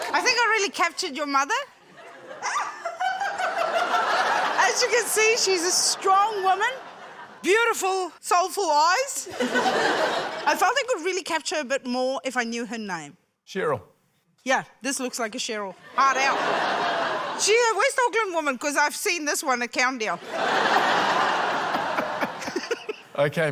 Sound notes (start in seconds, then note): 2.4 laura laughs; 9.2 laughter; 15.8 laughter; 20.2 laughter